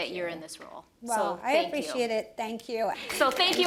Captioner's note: applause